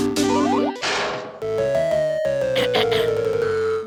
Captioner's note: clears throat